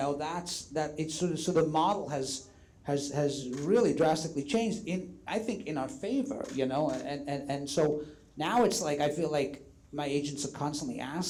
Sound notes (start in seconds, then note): none